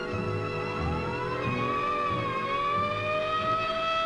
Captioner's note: siren blaring